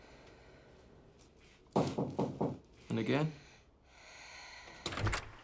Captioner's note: breathes deeply; knock on door